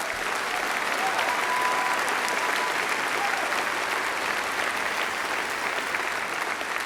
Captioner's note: applause